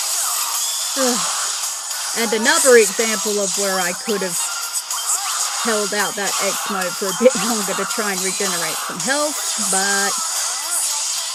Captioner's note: sigh